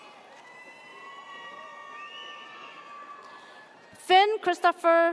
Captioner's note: audience cheers